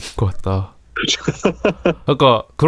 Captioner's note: laughter